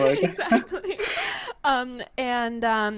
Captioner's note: laughs